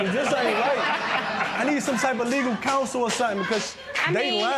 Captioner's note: laughter